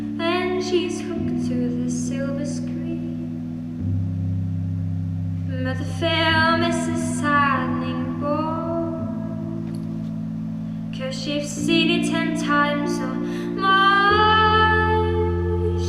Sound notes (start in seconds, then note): none